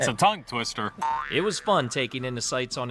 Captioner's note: spring boinging